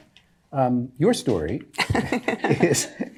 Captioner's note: both laugh